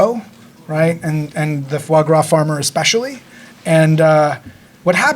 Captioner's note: speaking foreign language